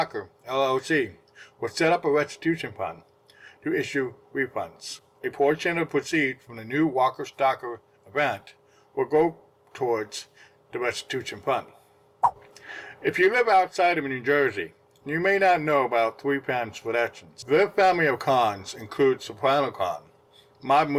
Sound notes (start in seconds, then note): 12.2 swipe Sound